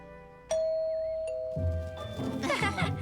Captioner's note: fun music; doorbell ring; all giggling